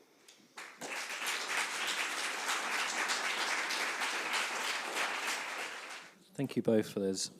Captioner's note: applause